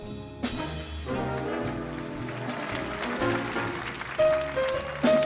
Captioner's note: audience applauding